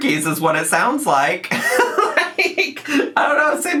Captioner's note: laughing